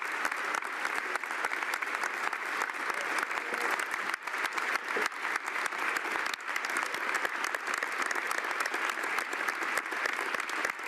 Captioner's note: applause